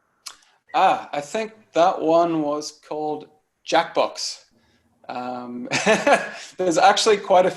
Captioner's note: laughs